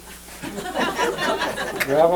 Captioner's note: laughter